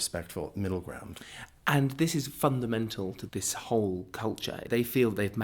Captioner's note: voiceover